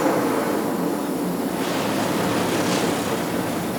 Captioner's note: engine dies